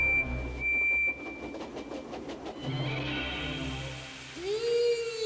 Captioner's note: engine whistles, puffs, creaks; frightening music playing